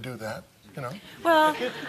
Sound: laughter

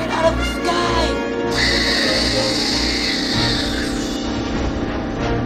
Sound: stabilizer gasses whooshing

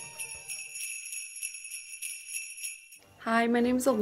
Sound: sleigh bells

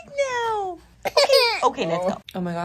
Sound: laughing; crying

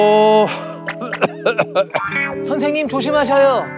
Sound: coughing

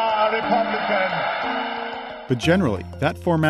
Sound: cheers

